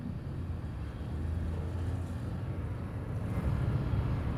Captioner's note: distant engines